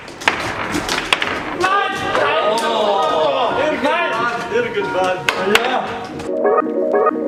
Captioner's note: energetic foosball noises